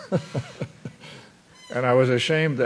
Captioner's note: laughter